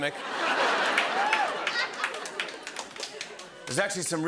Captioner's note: laughter